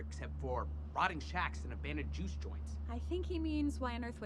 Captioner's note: none